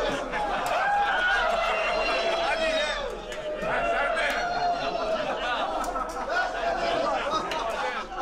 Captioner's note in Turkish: Gülme sesleri